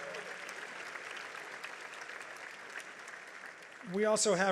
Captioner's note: audience applauds